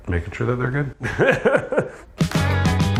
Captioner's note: laughs; funky music